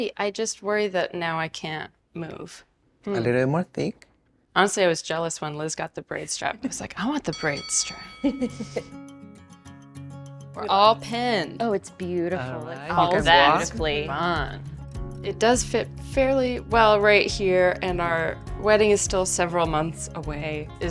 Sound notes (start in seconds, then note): 8.3 chuckles; 8.4 gentle music